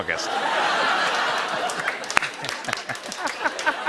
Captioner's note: laughter and applause